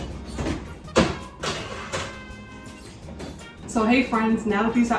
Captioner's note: cookie tray clanking